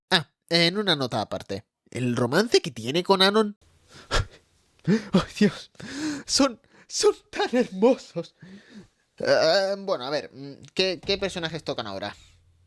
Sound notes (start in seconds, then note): 4.8 fake sobbing; 5.7 inhales